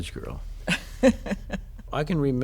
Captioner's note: laughter